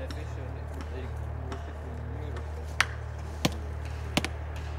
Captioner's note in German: Hämmern